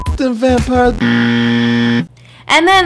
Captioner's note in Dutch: Buzzer geluid